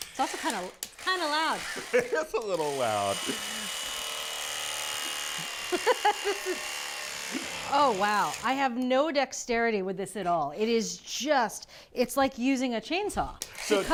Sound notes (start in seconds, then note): 3.2 electric knife whirs; 5.6 chuckles